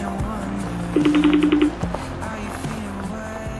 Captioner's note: phone ringing